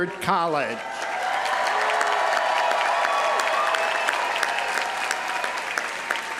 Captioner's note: audience applauding; audience cheering